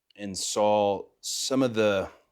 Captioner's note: none